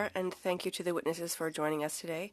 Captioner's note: speaking French